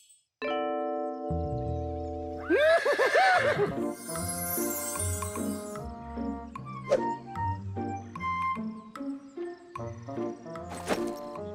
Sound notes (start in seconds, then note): 2.4 neighs and laughs